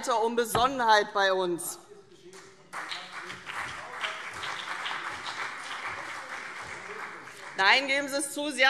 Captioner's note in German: Beifall CDU und BÜNDNIS 90/DIE GRÜNEN - Zuruf AfD